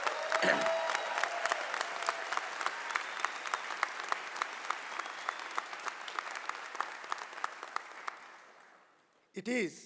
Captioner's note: cheering and applause